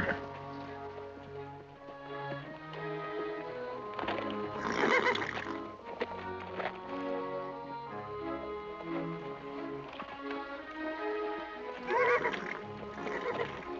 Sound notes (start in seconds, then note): 4.5 nickering; 11.7 whinnying